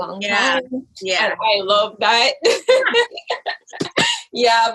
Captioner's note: laughs